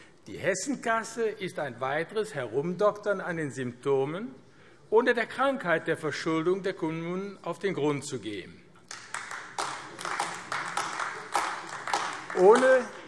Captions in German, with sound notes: Die Hessenkasse ist ein weiteres Herumdoktern an den Symptomen, ohne der Krankheit der Verschuldung der Kommunen auf den Grund zu gehen. [Beifall AfD]